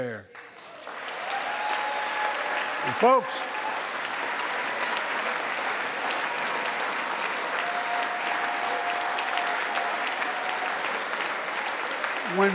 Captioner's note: applause